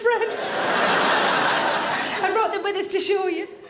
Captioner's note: audience laughing